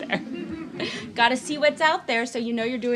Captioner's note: laughing